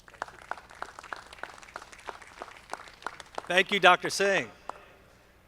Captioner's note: audience clapping